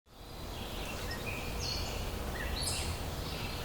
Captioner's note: birds singing